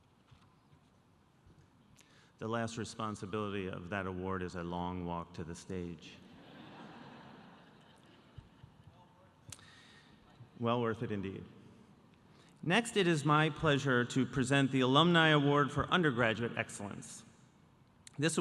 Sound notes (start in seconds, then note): 6.3 audience laughing